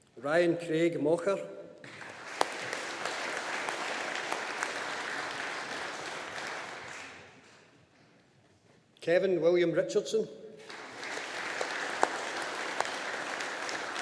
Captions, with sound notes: Ryan Craig Mochar. (AUDIENCE APPLAUDING) Kevin William Richardson. (AUDIENCE APPLAUDING)